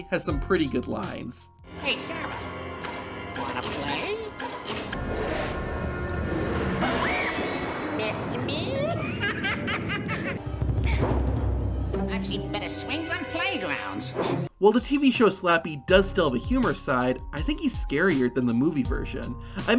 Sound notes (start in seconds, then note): 6.8 woman screams; 8.7 laughs maniacally